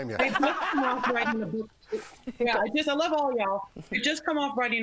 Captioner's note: laughter